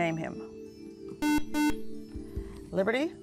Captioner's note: buzzer